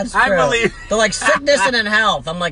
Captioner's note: laughing